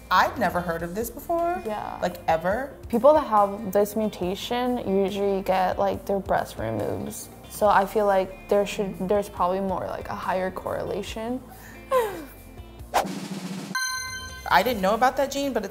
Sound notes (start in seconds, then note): 13.0 drum rolls; 13.7 dings